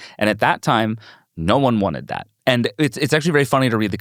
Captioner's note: none